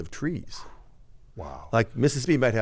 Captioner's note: exhales